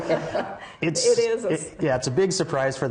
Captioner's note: laughter